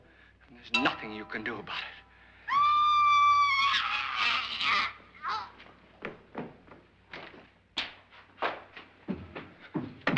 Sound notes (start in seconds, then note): 2.4 woman screaming; 4.2 woman choking